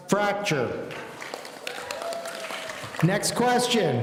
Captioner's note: audience applauding